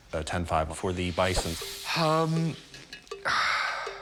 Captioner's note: sighs